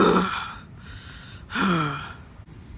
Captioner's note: breathes